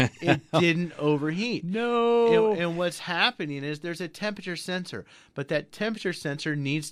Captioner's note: laughs